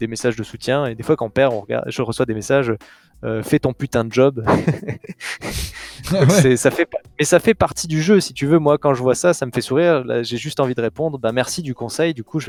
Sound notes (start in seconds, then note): 4.4 laughs